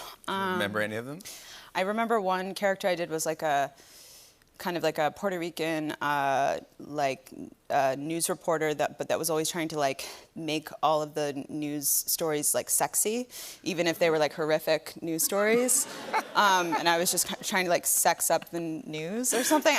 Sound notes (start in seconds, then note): 15.2 laughter